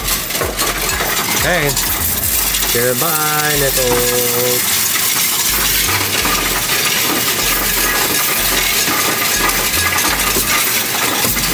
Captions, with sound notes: Okay, goodbye, nickels. (coins rattling) (upbeat music)